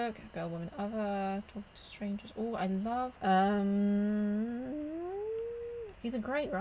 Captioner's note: noises of deliberation